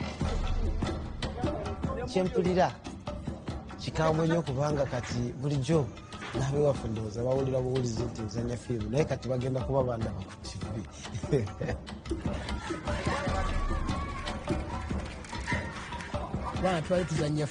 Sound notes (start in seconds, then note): 10.9 laughs; 13.4 light rhythmic music